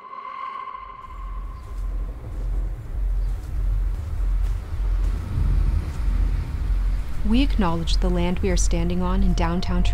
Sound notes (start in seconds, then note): 2.5 birds chirping